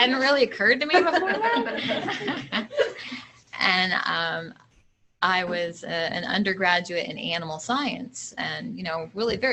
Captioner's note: laughter